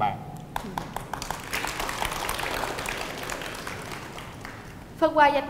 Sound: clap

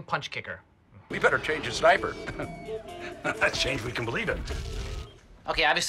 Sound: laughs

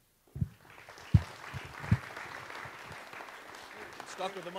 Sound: audience applauds

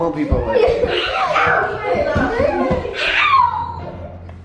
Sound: kids yelling

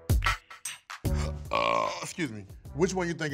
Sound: upbeat music; burps

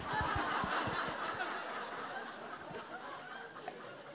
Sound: laughter

